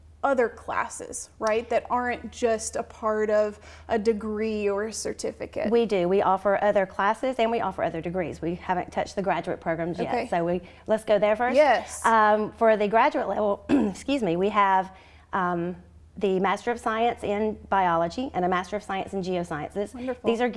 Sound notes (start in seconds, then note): 13.6 coughs